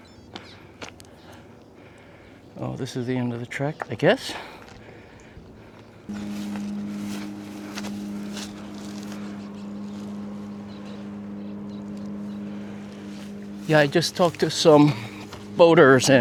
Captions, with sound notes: Oh, this is the end of the trek, I guess. (engine revving) Yeah, I just talked to some boaters